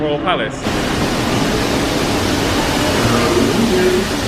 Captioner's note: loud whooshing